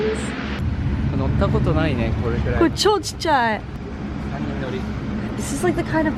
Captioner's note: speaking in foreign language